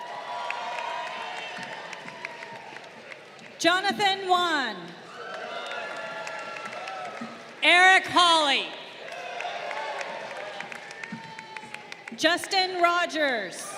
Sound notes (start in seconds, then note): 0.0 crowd cheering